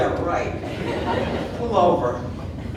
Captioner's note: audience laughing